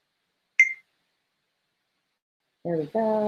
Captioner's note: beep